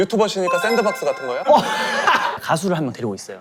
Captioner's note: cracking up